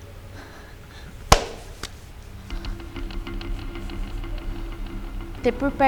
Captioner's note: hand flattening on the floor and tired breathing